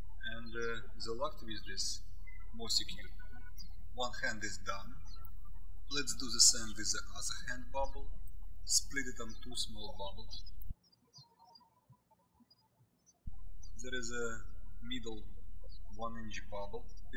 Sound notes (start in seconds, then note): 13.2 birds chirping